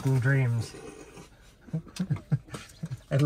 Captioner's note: both laughing